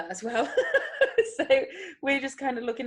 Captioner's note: chuckles